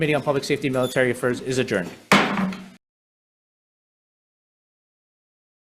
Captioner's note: gavel bangs